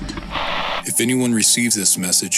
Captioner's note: Static